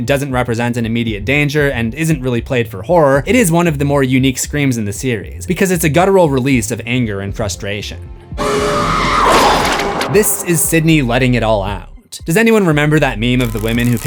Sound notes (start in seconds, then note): 8.4 screams